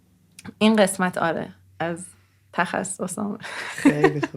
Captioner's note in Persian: خنده